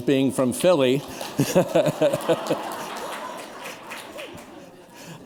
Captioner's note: laughter